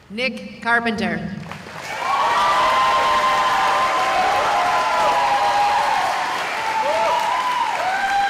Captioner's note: cheering